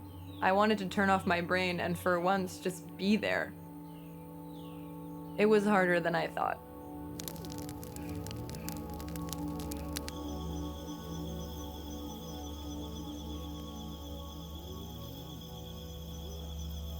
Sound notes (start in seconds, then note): 7.2 soft music; 8.6 fire sizzling